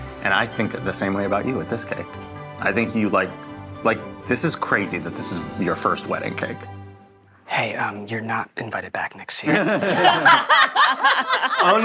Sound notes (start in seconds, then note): 9.3 whispering; 9.4 all laughing